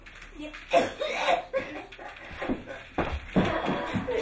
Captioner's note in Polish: kaszel